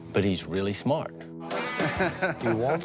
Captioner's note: laughs